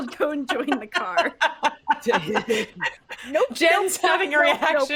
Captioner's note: all laughing